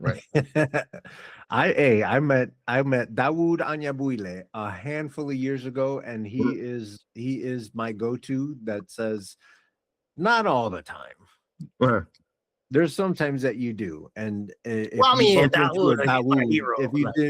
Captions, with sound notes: Right. (Laughing) I met Dawood Anya Builey a handful of years ago and he is my go-to that says, not all the time. There's some times that you do and-- I'll meet Dawood Anya Builey a hero.